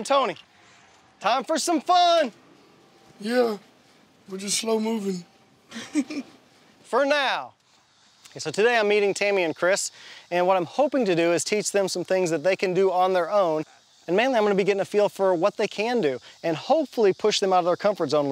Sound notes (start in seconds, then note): 5.7 chuckles